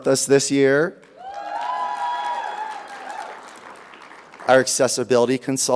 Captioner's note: audience applauding; audience cheering